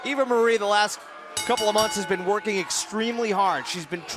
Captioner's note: bell